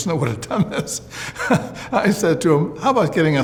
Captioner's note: laughs